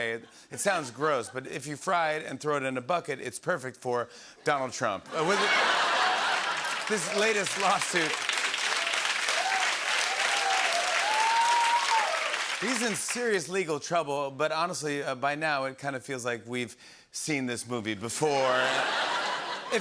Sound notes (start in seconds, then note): 5.1 laughter; 9.2 applause